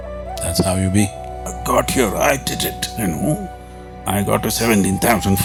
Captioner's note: laughs